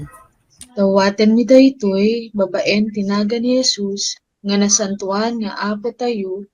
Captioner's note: person speaking in foreign language